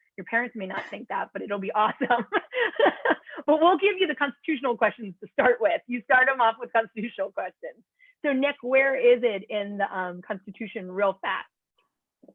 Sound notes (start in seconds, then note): 1.8 laughter